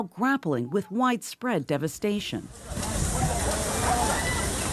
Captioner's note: screams